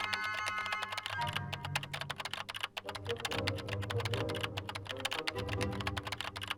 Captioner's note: dramatic music continues; keyboard clicking